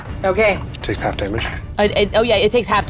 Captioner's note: die rattling